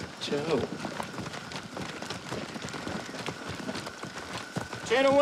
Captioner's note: footsteps stomping